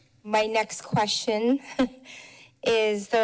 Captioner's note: chuckles